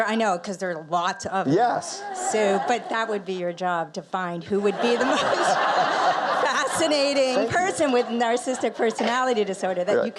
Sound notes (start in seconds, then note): 4.6 audience laughs